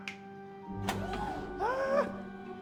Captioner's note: laughing; fingers snapping; excited gasp